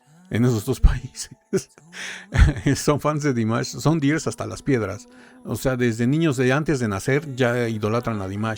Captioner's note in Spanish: risas